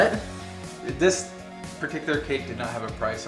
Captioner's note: male Voice